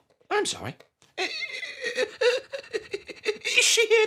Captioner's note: mock stammering